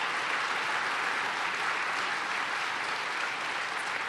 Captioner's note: applause